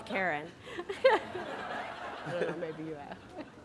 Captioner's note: laughter